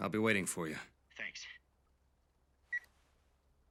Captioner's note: mobile beeps